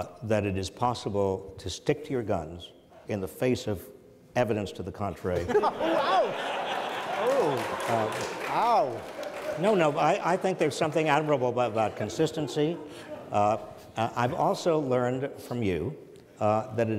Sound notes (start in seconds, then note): 5.5 audience laughs